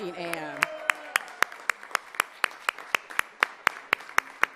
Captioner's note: all applauding